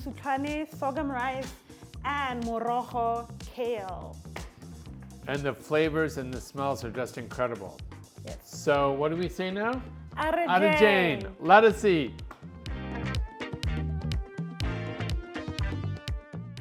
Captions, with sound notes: mosutlhane, sorghum rice, and morogo, kale. - And the flavors and the smells are just incredible. - Yes. - So what do we say now? (both speak foreign language) - Let us eat. (upbeat music continues)